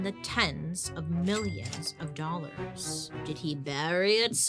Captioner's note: cash register chiming